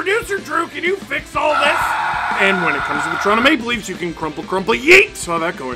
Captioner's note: screaming